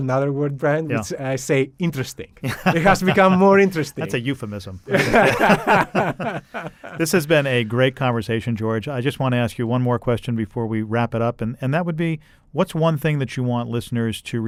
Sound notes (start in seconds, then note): 4.9 laughter